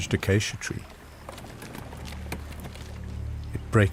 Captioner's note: branches snapping